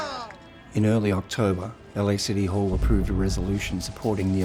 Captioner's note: voiceover